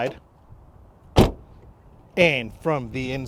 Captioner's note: car door bangs